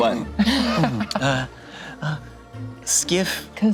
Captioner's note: group laughs